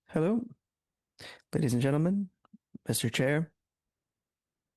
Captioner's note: speaking French